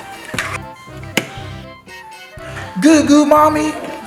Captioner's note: light switch clicking